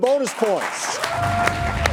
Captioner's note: audience applauding